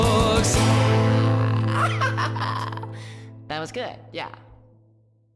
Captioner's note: singers, off-mic, muttering; laughing